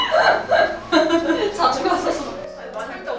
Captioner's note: haha